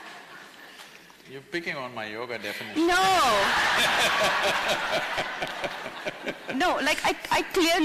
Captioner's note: laughter; laughs